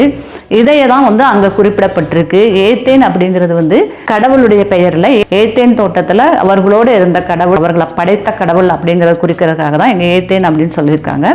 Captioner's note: in Tamil language